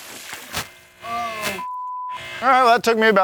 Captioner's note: camera operator shouts